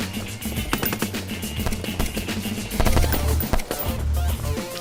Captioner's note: garage door continues to close